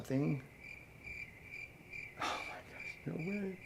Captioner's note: crickets chirping